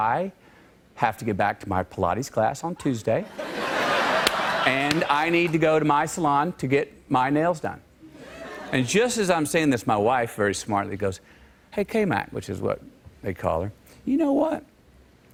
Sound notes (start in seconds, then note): 3.2 laughter